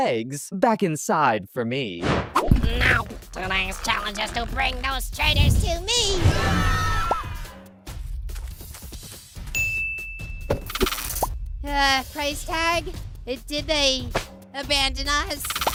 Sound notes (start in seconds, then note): 6.3 screaming